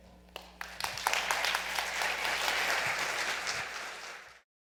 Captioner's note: audience claps